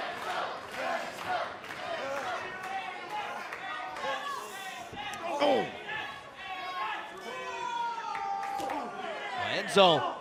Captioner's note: fans chanting